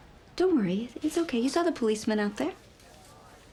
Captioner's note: none